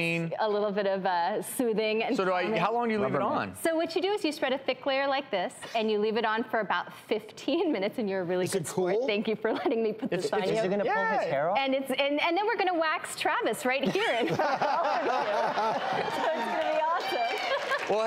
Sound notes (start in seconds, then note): 13.8 laughing